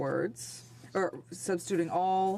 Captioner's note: speaking French